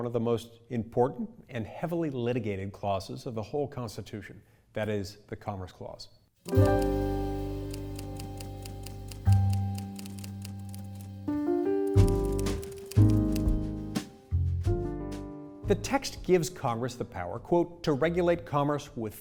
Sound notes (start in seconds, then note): 7.1 soft music; 8.3 typewriter clicks